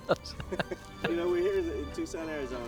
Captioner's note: laughs